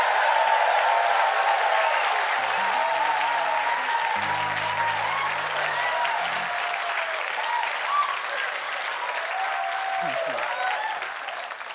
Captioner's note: cheers and applause